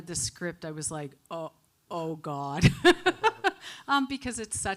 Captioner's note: laughs